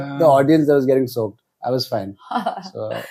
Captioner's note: laughs